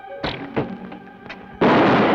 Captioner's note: bow twangs; bullet ricochets; gun fires